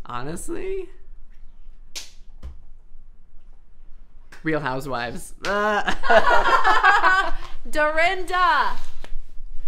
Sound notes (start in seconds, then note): 5.5 laughs